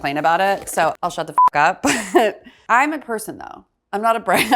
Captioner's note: beeps